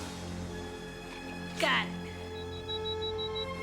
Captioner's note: beeping